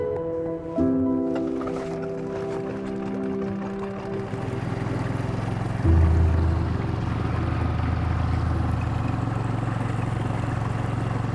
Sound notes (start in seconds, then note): 0.2 calm music; 2.9 boat engine droning